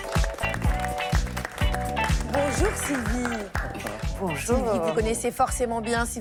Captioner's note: applause